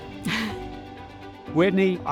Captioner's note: chuckles